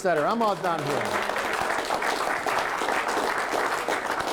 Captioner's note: applause